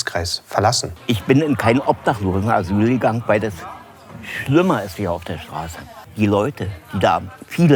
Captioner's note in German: männliche Stimme, Berliner Dialekt